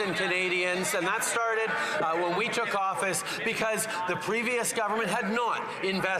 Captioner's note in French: voix de l'interprète